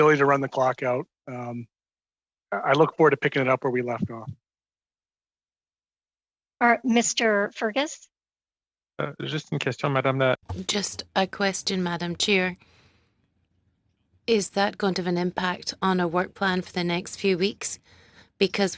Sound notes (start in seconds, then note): 14.1 speaking French